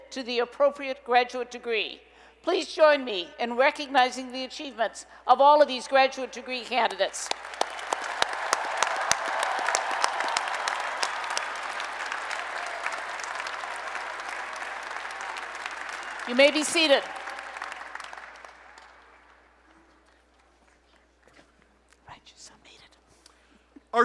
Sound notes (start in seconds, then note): 7.2 applause and Cheering